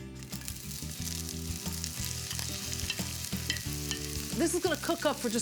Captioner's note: sizzling in pan